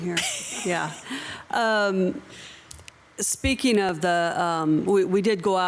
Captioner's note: council member laughs